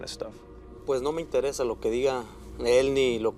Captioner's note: speaking Spanish